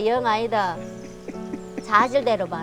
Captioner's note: guiltily laughs